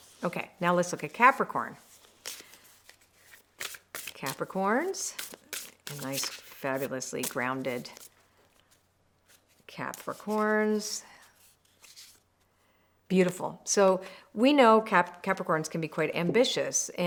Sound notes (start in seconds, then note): 1.8 cards rustle